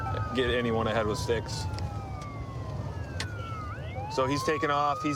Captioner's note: sirens wailing